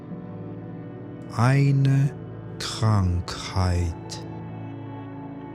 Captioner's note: german